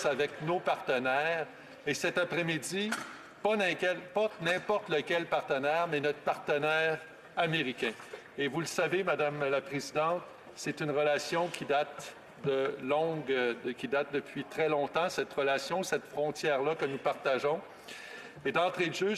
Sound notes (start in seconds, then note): 5.8 speaking French